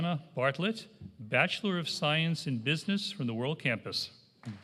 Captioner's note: applause